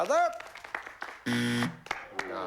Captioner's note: buzzer